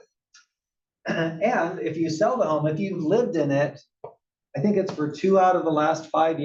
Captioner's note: cough